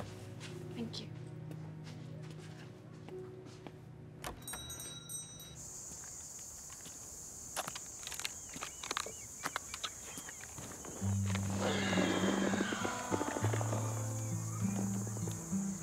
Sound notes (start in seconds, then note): 11.5 grunts